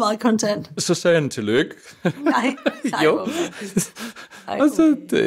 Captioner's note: laughs